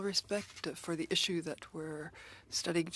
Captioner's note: speaking French